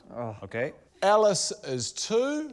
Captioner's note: groans